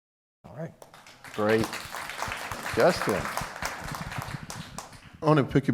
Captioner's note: applause